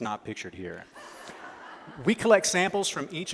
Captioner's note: laughter